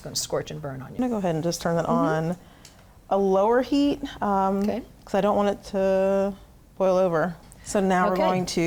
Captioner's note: none